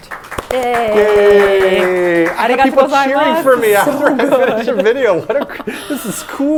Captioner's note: applause